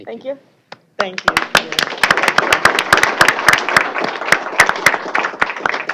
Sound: applause

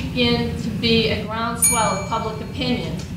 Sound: bell dings

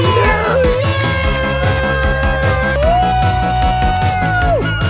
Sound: everyone cheers

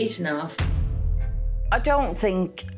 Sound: explosion booming

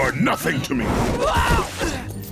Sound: grunting

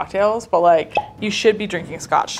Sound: bottle popping

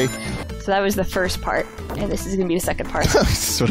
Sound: chuckles

